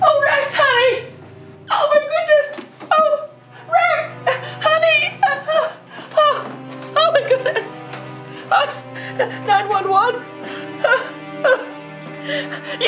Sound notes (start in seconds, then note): 8.3 sobs